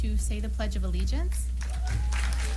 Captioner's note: applause